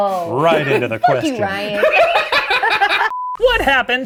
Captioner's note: laughs